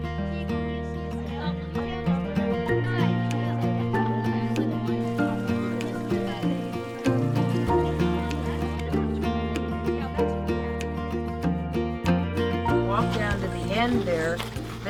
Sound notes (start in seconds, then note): 3.1 children talking over each other; 7.0 gentle guitar and piano music